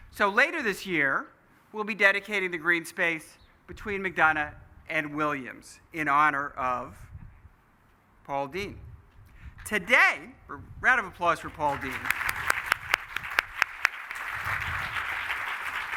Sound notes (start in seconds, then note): 11.4 applause